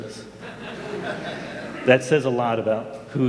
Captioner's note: audience laughing